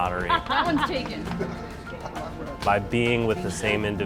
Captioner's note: laughter